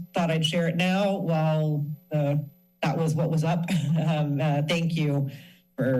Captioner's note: chuckles